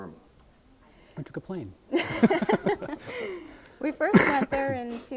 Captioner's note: both laughing